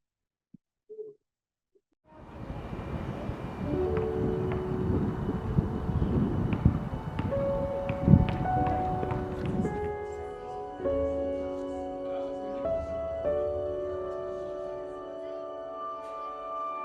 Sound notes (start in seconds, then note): 7.8 dramatic music; 7.8 people chattering